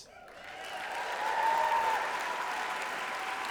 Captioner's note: applause and cheering